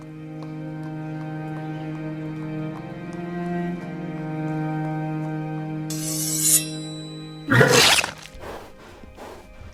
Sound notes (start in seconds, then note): 5.8 dagger unsheathing; 7.5 foal neighs